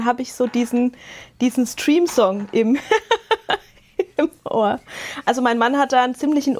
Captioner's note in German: Gelächter